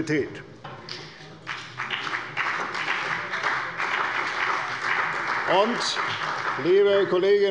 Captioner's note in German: Beifall bei der CDU und dem BÜNDNIS 90/DIE GRÜNEN